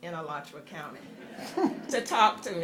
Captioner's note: laughter